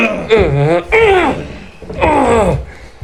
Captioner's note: screaming in pain